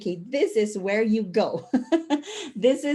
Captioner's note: chuckle